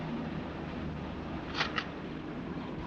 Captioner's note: camera shutter clicking